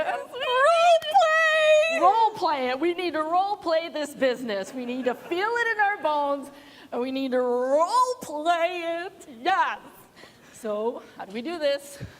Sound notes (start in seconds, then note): 4.7 laughter